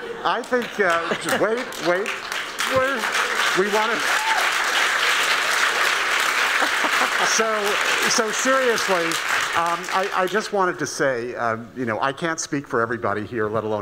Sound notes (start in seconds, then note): 4.6 applauding